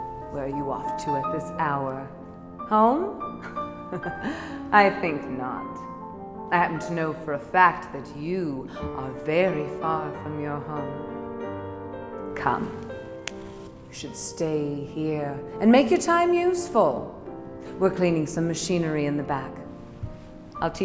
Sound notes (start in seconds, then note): 3.5 laughs; 13.2 snaps fingers